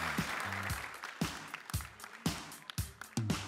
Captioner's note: applause